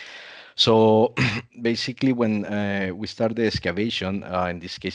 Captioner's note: clears throat